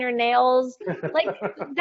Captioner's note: laughing